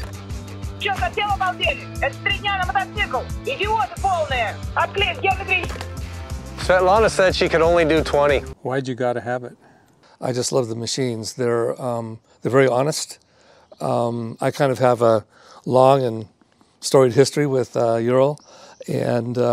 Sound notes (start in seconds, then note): 0.2 telephone ringing; 3.3 speaking in foreign language